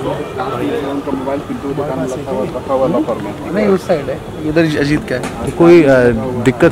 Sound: talking among themselves

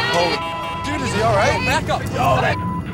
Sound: beep; beep

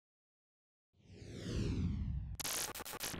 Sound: logo whooshes

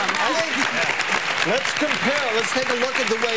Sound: audience applause

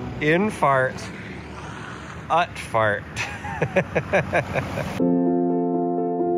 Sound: laughing; upbeat music

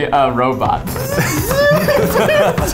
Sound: robot noise; laughs

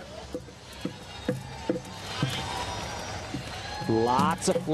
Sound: crowd cheering

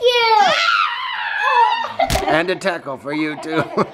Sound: shouting

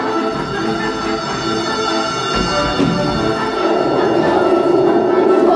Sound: energetic music; bells chiming

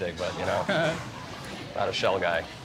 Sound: chuckles

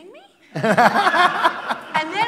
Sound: laughter

